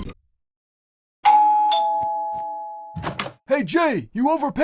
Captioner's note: doorbell